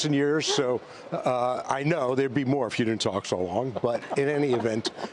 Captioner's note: laughter